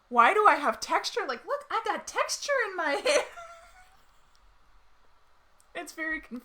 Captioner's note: laughs loudly